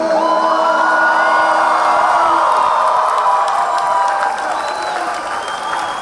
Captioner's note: audience cheering; audience applauding